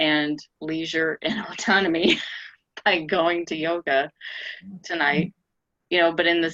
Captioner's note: laughs